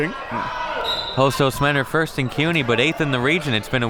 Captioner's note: whistle blows